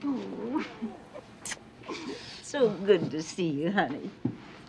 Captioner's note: chuckles